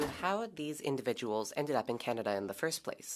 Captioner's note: speaking French